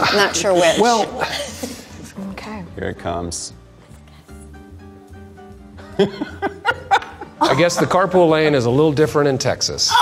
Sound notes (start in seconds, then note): 5.9 laughing